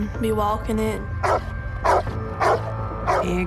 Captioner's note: barks